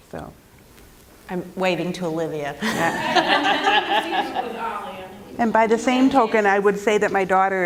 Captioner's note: laughter